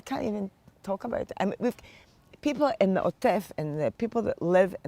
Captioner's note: hebrew